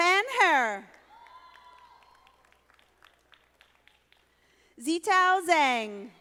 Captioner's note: audience applauding